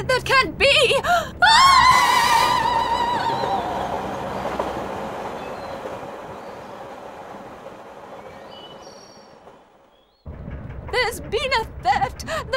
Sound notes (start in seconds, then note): 3.2 train clacking; 6.7 birds chirping